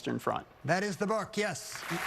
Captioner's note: applause